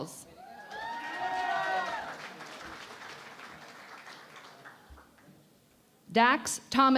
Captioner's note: cheering and Applause